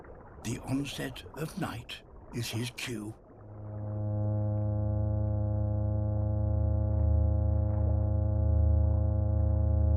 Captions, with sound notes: The onset of night is his cue. (DRONING HUM)